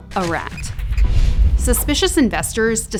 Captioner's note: rat squeaks